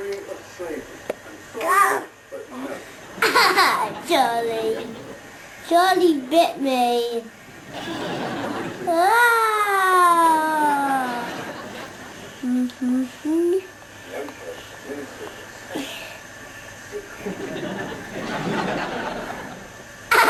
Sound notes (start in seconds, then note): 2.9 laughs; 8.9 coos loudly; 12.4 boy humming a tune; 17.1 audience laughs